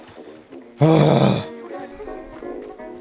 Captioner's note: angry Sigh